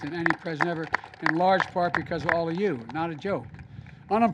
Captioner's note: applause